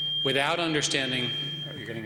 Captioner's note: feedback whines